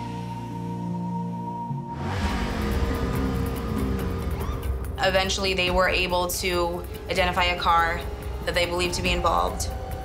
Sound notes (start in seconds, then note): 2.2 engine revs